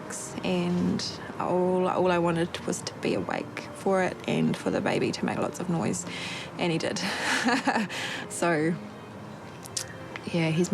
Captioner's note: chuckles